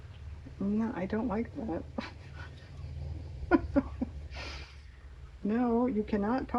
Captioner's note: laughs